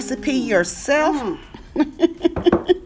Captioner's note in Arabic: يضحك